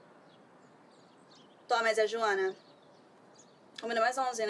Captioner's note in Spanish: en portugués